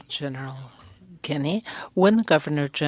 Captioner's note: speaking French